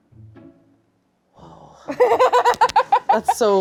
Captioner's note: light music; laughing